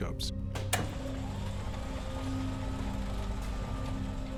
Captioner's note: kinetoscope whirring